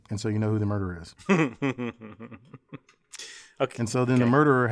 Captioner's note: laugh